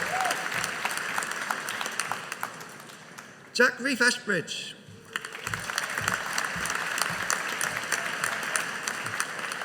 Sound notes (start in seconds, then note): 5.0 audience applauding